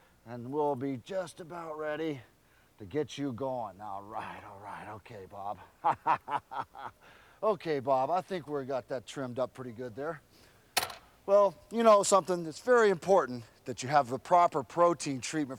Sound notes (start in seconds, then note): 5.6 laugh